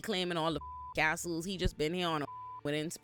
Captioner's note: beep